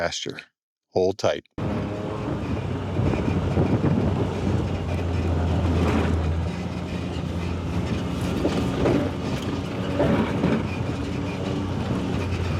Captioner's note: machinery rumbling